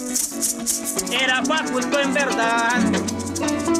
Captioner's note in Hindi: स्पैनिश बोलते हुए